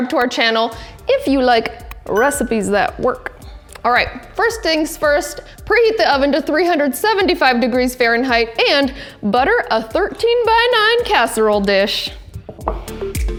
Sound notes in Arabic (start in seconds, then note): 2.1 قرع الجرس